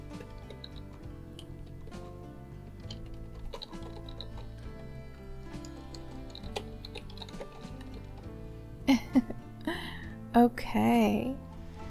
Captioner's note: typing noises, giggle